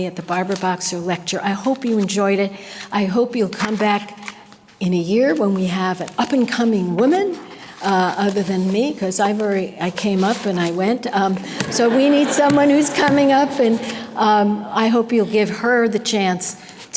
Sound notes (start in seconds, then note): 11.2 audience laughter